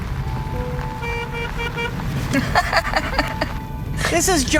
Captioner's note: honks horn; laughs